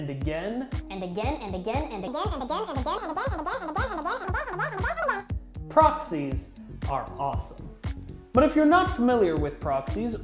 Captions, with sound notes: and again and again and again. (squeaking) Proxies are awesome but if you're not familiar with proxies